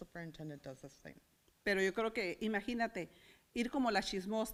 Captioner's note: foreign language